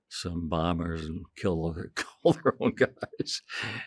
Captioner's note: chuckling